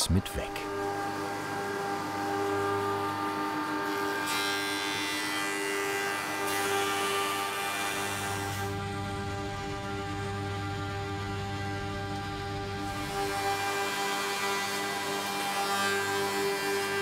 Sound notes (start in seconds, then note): 1.5 loud machine noise